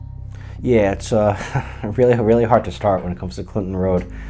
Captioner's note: chuckles